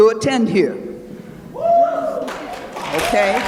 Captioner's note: cheering